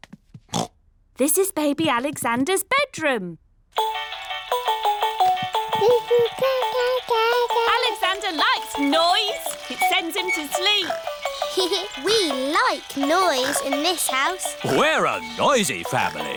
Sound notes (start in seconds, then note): 0.5 oinks; 4.1 mobile playing loud music; 5.4 cooing; 11.1 giggles